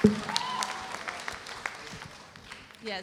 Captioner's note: audience cheering